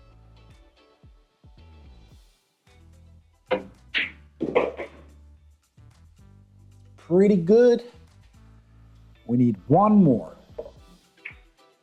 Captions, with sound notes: (balls clanging) Pretty good. We need one more.